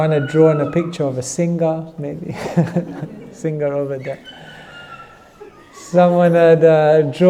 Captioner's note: child talking in audience